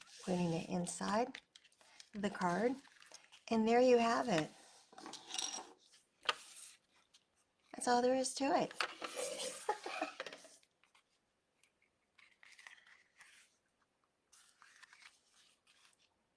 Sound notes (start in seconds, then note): 9.5 laughing